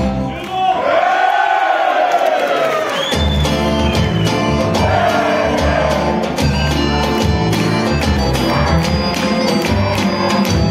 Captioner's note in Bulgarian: аплодисменти